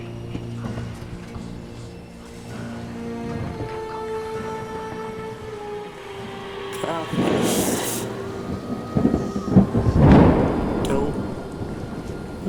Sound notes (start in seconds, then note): 0.0 dramatic music; 8.7 storm raging